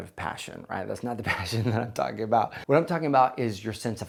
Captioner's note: laughs